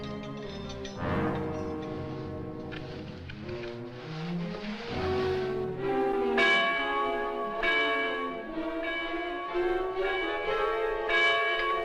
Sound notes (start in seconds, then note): 4.5 ringing